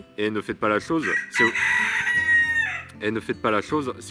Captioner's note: rooster Cries